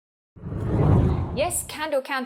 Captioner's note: air whooshes